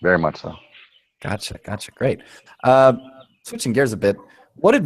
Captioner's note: voiceover